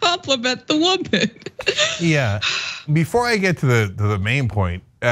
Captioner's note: laugh